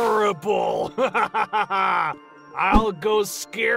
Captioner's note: chuckles